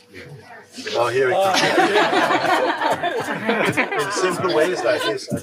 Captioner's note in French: rires